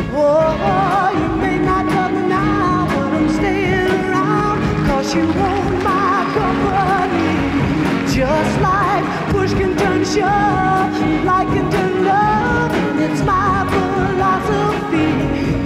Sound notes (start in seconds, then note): 7.0 crowd applauds